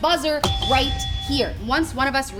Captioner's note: buzzer rings